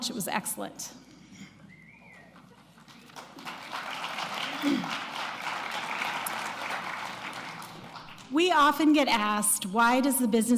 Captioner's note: applause